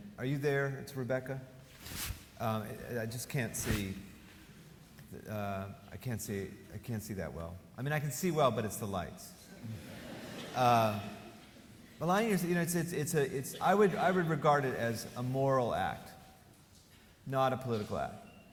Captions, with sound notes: Are you there? That's Rebecca? I just can't see. I can't see that well. I mean I can see well, but it's the lights. (audience laughing) Aligning yourself, I would regard it as a moral act, not a political act.